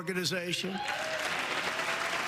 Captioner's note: applause